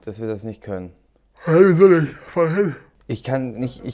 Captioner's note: gähnt